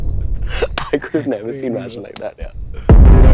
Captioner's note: Laughs